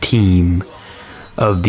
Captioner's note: inhales Oxygen